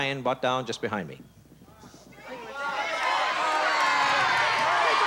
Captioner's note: audience shouting